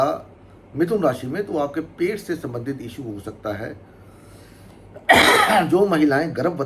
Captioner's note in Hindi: गला साफ़ करने की आवाज़